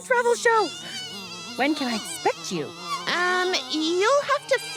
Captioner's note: buzzing in background